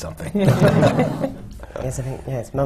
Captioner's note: laughter